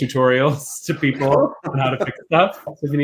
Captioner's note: laughs; laughing